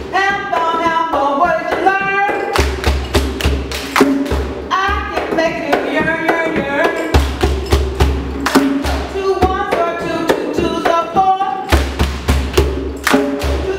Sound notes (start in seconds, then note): 2.3 slapping and clapping; 6.9 slapping and clapping; 11.7 slapping and clapping